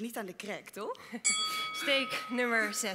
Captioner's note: bell